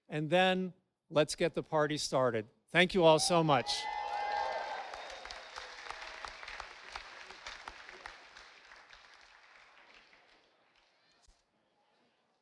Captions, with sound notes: and then let's get the party started. Thank you all so much. (audience applauding)